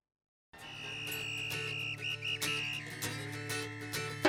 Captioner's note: whistle whistling